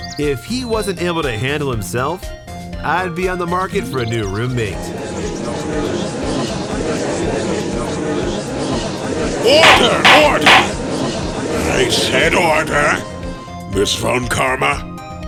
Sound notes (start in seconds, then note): 5.7 gallery chattering!; 9.5 gavel slams!